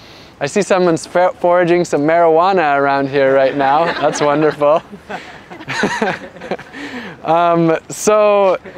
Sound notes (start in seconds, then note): 6.9 laughter